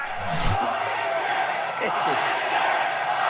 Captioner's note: crowd; chanting